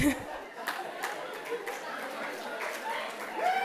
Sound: laughter

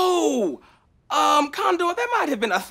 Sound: with lisp

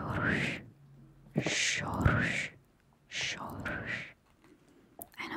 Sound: Polish

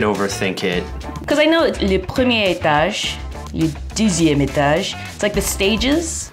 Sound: speaks French

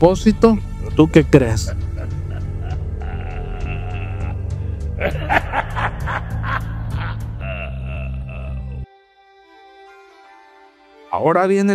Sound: laughs

